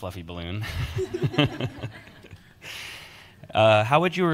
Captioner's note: panelists laugh